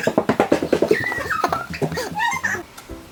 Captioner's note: clacking; distorted giggling